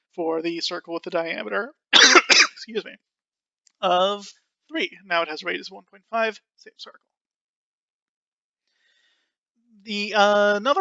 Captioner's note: coughing